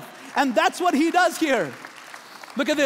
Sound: applauding

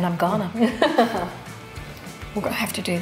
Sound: laughs

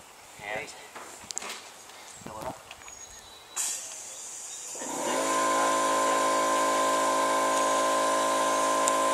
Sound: air compressor sounds

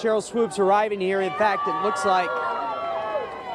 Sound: cheering

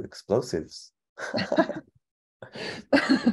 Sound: both laughing

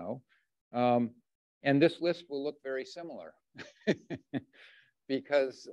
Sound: chuckles

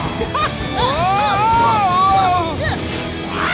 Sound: roaring; screaming; grunting; roaring

